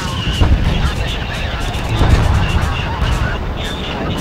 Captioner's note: canon firing